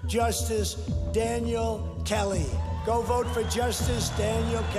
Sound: crowd cheers

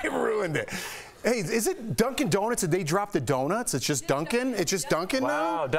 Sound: laughter

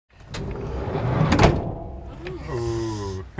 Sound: bus door slams

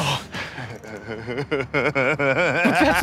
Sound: laughs maniacally

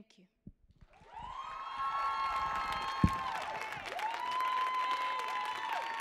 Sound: audience cheering and applauding

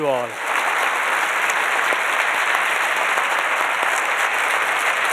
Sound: audience applauds

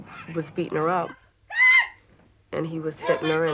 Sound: screams

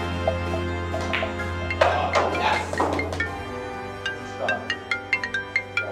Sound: phone rings

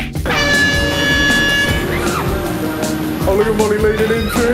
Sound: air horn blowing

